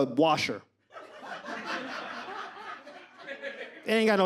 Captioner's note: audience laughs